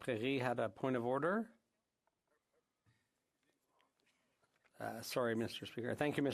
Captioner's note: speaking French